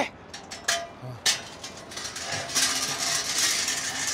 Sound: dolly clatters

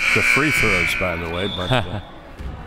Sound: buzzer

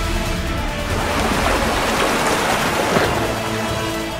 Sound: water gushing

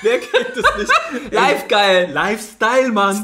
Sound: laughs

